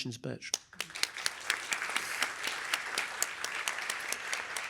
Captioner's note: applause